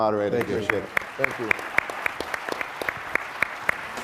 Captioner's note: applause